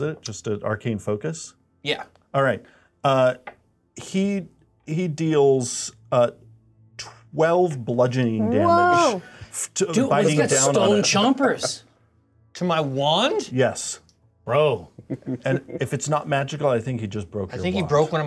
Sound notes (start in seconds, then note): 15.0 co-hosts laughing